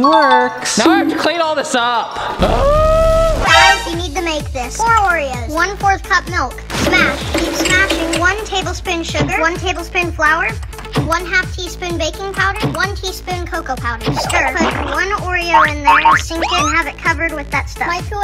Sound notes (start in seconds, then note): 2.3 yells